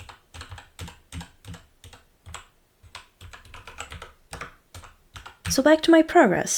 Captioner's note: keyboard clacking